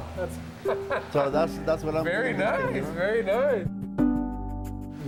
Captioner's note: laughing, music; laughs